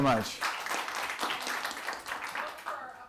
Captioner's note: applause